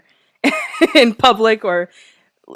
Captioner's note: laughs